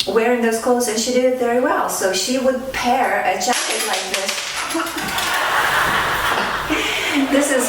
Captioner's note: laughter